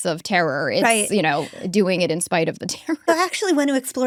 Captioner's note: chuckles